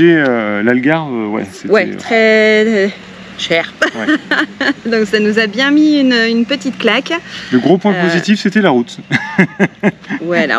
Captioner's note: laughs